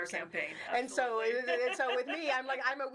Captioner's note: mumbling and chuckling